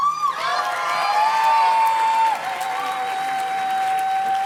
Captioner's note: audience cheers and claps